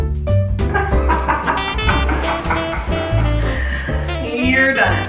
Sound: both laughing

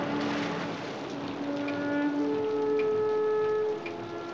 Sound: car engine starts

